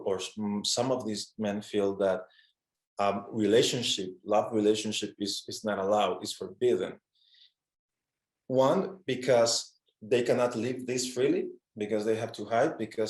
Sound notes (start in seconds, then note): none